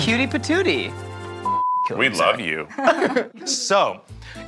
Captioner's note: beeps